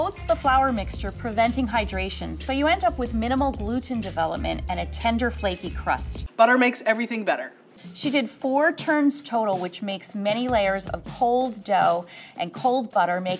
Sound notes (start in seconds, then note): none